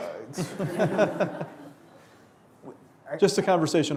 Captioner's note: laughing